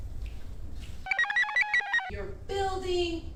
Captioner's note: computer chirps